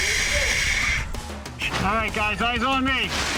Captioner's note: mask breathing